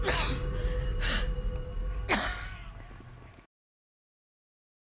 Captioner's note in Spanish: Toses